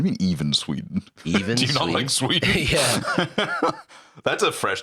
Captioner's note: laughs